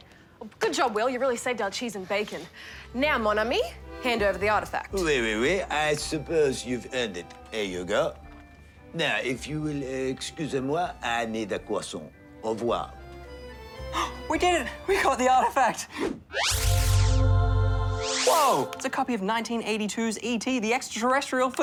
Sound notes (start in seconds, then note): 13.8 gasps; 16.5 angelic singing